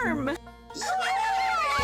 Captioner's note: cheering